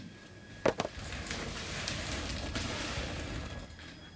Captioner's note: dragging noise